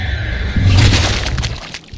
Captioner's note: wet Squishy noise